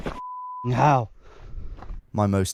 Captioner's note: beeps